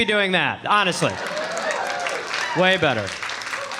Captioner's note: audience applauding